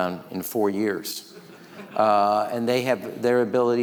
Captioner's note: audience laughing